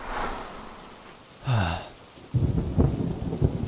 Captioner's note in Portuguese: suspiro